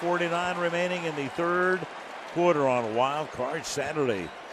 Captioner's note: pa announcement